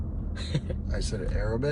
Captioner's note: laughs